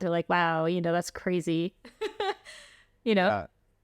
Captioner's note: laughter